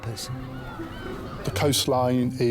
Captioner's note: seagulls squawking